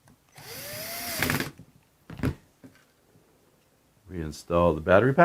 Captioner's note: screwdriver whirs